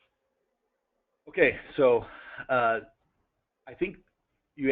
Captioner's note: pause